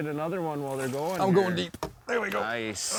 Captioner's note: grunts